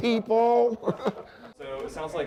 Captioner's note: laughter